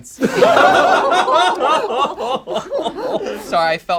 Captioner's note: group laughs